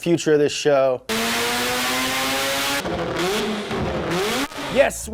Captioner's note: engine revving